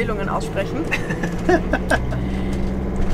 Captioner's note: laughs